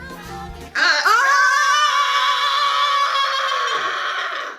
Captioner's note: screaming